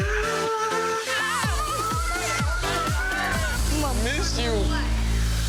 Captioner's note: cheering together